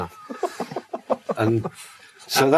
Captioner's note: host laughs